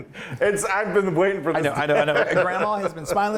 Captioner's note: laughs